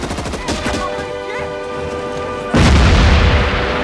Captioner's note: machine Gun Fire; yelling In Korean